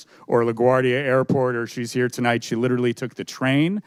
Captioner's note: none